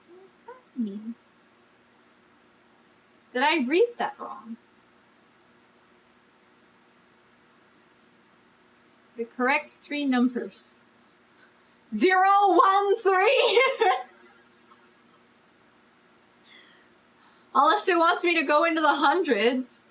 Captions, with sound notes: SO WHAT DOES THAT MEAN DID I READ THAT WRONG THE CORRECT THREE NUMBERS ZERO ONE THREE [LAUGHS] UNLESS IT WANTS ME TO GO INTO THE HUNDREDS